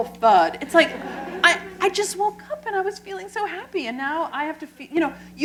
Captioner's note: laughter